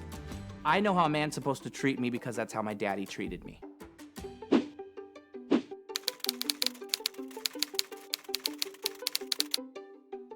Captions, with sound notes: I know how a man's supposed to treat me because that's how my daddy treated me. (light music) (typewriter clacking)